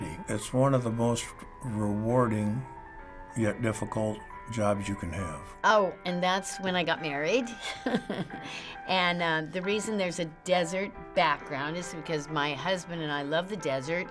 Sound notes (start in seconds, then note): 7.6 chuckles